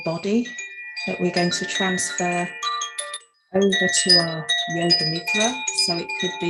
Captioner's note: chimes; chimes